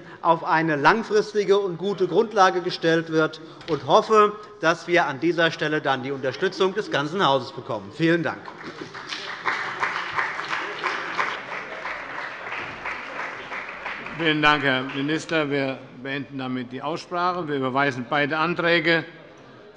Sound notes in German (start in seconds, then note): 8.2 Beifall bei der CDU und dem BÜNDNIS 90/DIE GRÜNEN